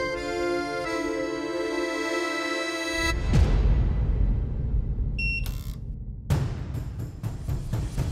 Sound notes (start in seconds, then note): 5.2 machine beeps